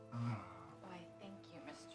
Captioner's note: chuckling; groans